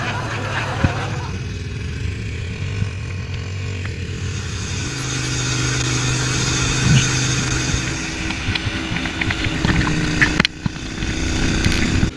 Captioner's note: laghter Applause; sound of outboard motor